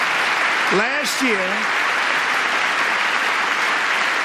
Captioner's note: applause